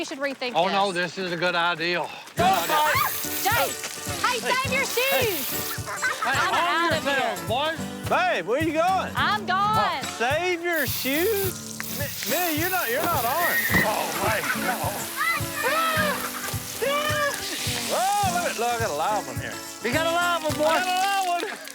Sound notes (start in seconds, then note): 15.2 screaming